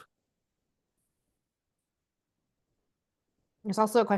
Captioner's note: silence